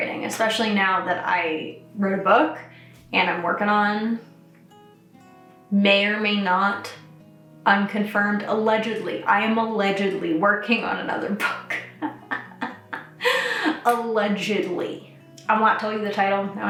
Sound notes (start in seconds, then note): 11.7 laughs